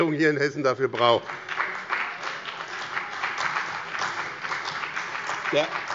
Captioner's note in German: Beifall bei dem BÜNDNIS 90/DIE GRÜNEN und der CDU